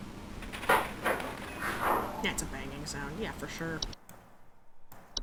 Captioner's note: rattling and banging